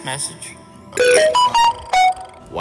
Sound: digital burp

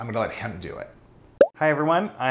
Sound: pop

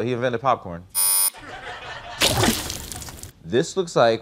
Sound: buzzer

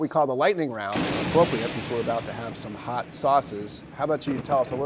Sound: thunder sound

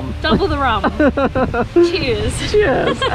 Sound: laughs

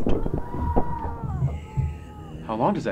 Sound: man screaming

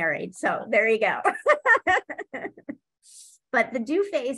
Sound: laughs

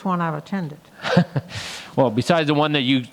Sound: chuckles

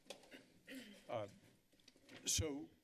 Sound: clears throat

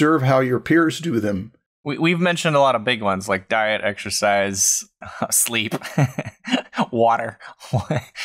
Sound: chuckles

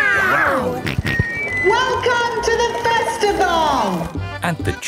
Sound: on microphone; jolly folk music

